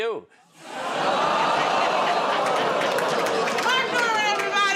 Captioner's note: audience "Oh"s